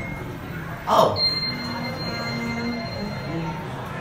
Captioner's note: up chime rings